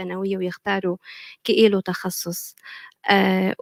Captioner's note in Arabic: لغة أجنبية